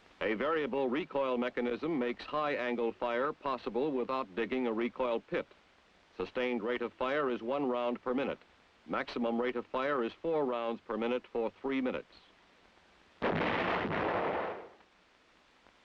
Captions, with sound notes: A variable recoil mechanism makes high-angle fire possible without digging a recoil pit. Sustained rate of fire is one round per minute. Maximum rate of fire is four rounds per minute for three minutes. (howitzer booms)